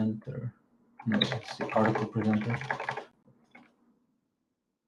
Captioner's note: keyboard clacking